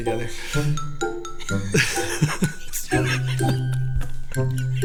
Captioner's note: laughing